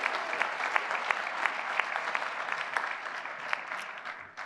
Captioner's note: applause